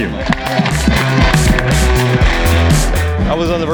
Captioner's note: audience applause